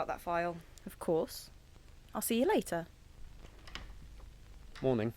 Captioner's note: A door opening and closing